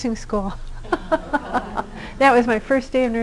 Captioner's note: laughter